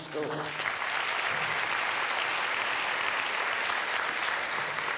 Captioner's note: audience applauding